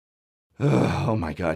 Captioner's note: sigh